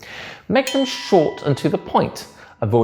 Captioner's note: bell dings